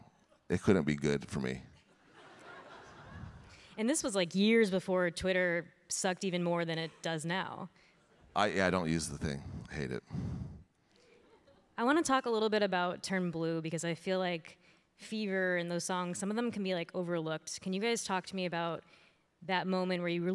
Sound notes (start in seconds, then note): 2.0 audience laughing